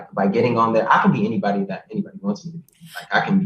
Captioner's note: laughs